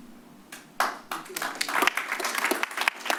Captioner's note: applause